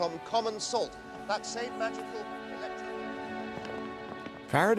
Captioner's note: <i> voice fades</i>